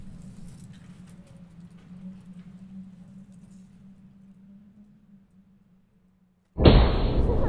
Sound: fire crackling continues; wind howling continues; intense foreboding music

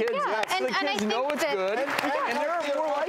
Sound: audience applause

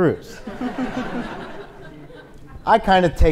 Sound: audience laughs

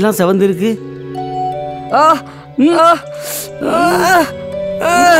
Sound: cries out in pain

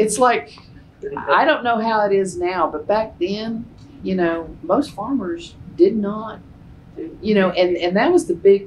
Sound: laughter

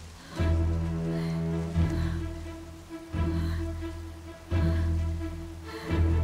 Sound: breathing heavily

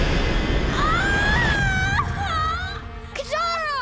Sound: screaming

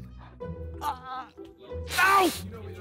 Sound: Vik groans

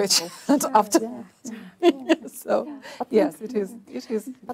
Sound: other's murmuring

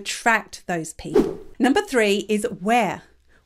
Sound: image whooshes

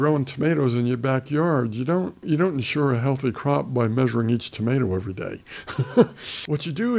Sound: laughs

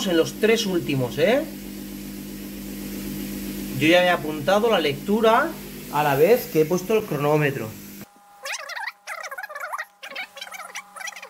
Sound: laughs

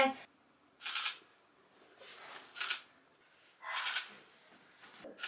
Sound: camera shuttering

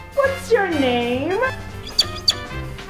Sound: chirps

